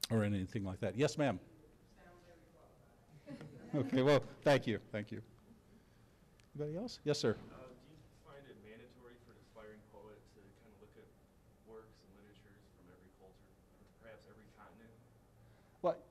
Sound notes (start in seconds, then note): 3.2 audience laughing